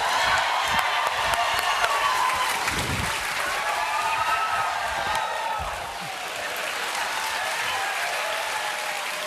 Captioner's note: cheers and applause